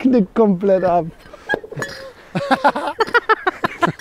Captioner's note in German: Gelächter